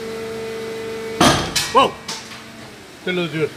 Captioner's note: strained machine sound; sound of things breaking